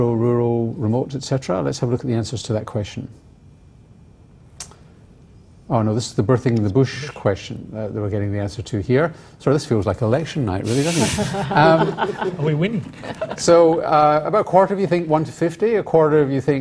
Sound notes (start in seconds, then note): 10.8 laughter